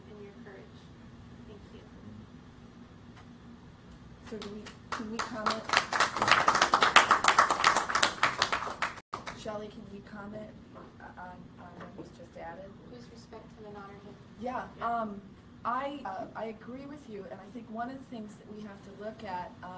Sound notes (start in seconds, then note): 5.9 applause